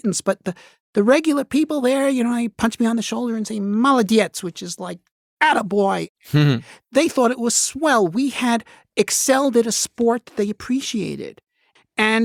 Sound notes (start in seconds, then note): 4.0 speaking Russian